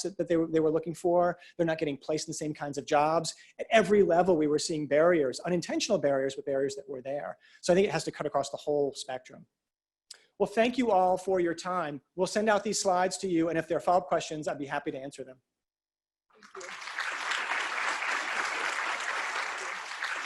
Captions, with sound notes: that they were looking for. They're not getting placed in the same kinds of jobs. At every level we were seeing barriers, unintentional barriers, but barriers that were there. So it has to cut across the whole spectrum. Well, thank you all for your time. We'll send out these slides to you. And if there are follow-up questions, I'll be happy to answer them. Thank you. [APPLAUSE]